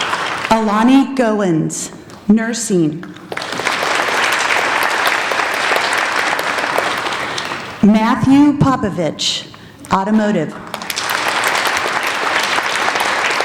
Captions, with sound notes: Alani Goings, nursing. (applauding) Matthew Popovich, automotive. (applauding)